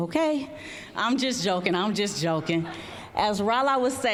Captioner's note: audience chuckling